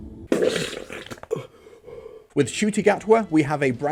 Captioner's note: vomits